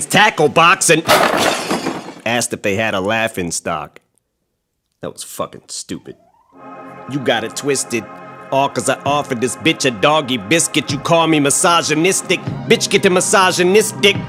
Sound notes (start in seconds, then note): 1.0 crash sound